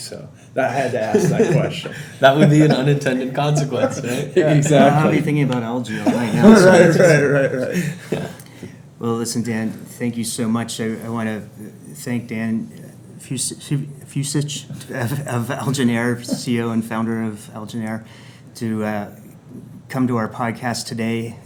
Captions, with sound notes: so I had to ask that question. - That would be an unintended consequence, right? - Now I’ll be thinking about algae all night. - (laughs) Right, right, right, right. - Well, listen, Dan, thank you so much, I wanna thank Dan Fucich of AlgenAir, CEO and founder of AlgenAir, to come to our podcast today